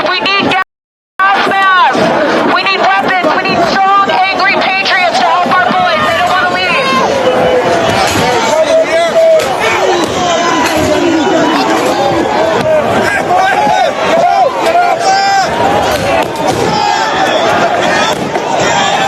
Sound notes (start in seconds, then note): 8.3 shouting